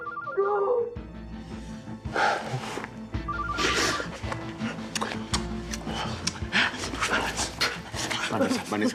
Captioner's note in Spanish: suena el celular; suena el celular